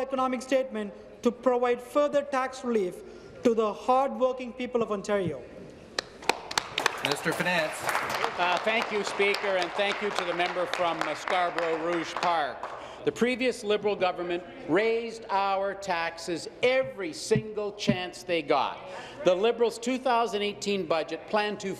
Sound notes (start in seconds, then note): 8.2 applause